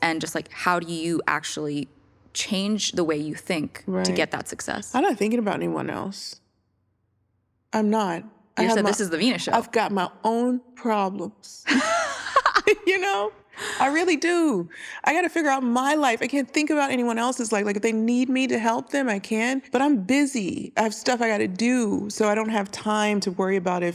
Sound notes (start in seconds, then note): 11.8 laughs